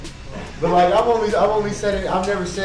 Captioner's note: people laugh